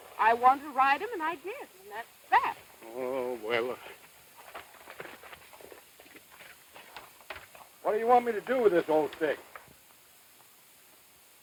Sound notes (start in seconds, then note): 5.4 hooves thudding